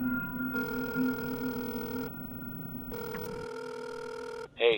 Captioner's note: phone ringing